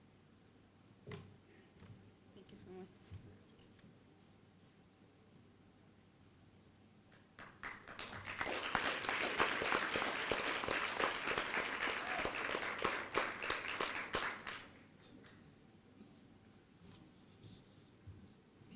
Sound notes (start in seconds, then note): 7.1 applause